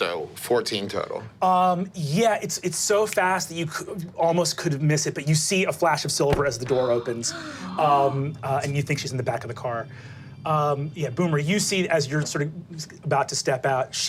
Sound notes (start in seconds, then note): 6.6 group gasping